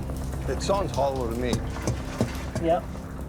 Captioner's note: thudding